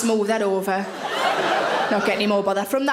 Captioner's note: audience laughing